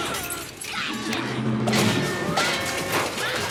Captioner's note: metal smashing